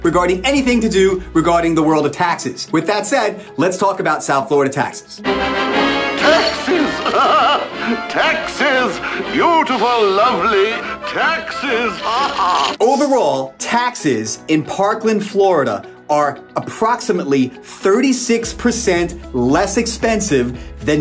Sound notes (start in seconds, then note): 5.3 triumphant music; 6.1 coins clinking; 6.8 tiger laughs; 10.9 cartoonish music; 11.3 snickers; 12.3 coins clinking; 13.1 graphics swish